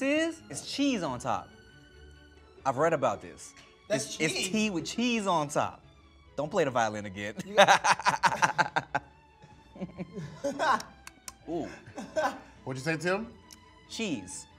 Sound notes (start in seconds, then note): 7.4 laughs